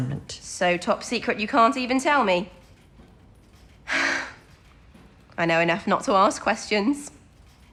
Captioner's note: she sighs